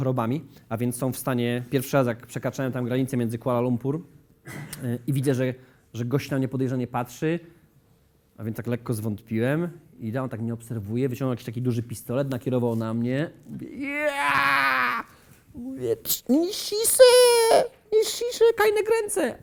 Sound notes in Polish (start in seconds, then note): 13.8 obcy język